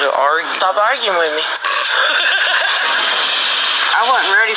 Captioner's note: laughing